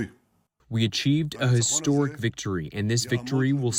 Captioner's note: through translator